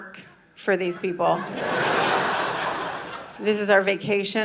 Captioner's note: audience laughing